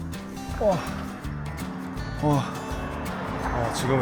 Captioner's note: the 30-something who randomly starts humming